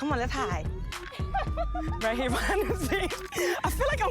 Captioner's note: girls laugh